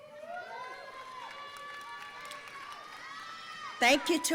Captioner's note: audience cheering